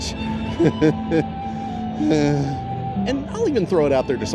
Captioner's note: unsettled laughter